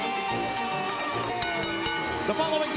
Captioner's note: bell